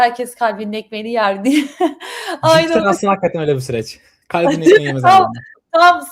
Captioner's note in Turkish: kahkaha